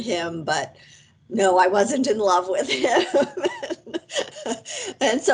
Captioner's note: laughs